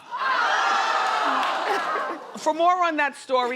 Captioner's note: crowd yells